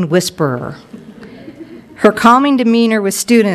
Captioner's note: crowd chuckles